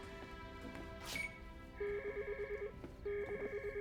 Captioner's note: Skype chimes